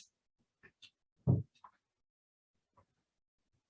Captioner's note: none